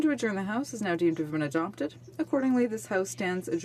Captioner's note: speaking French